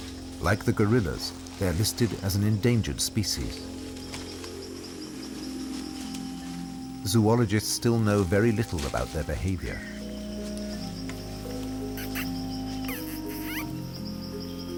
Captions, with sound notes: Like the gorillas, they are listed as an endangered species. Zoologists still know very little about their behaviour. [monkey infant squeaking softly]